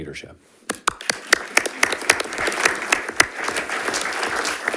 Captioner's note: panelists applauding